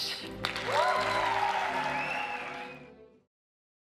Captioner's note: crowd applauds